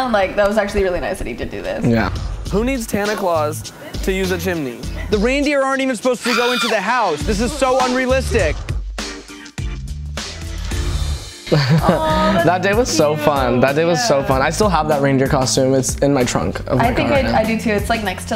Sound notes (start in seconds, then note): 11.4 laughs; 11.9 swoons